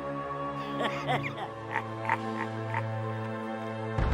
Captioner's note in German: Palpatines Lachen